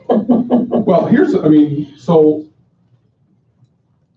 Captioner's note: laughter